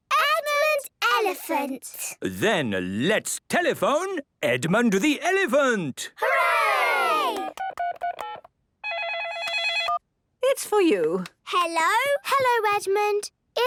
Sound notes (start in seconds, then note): 8.8 dial tones beeping; 9.0 ringing